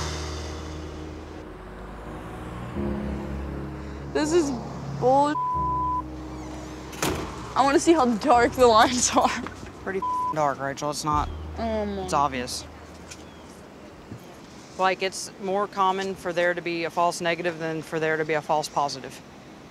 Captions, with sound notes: (somber music) This is bull (beep). I wanna see how dark the lines are. - Pretty (beep) dark, Rachel. It's not, it's obvious. It's more common for there to be a false negative than for there to be a false positive.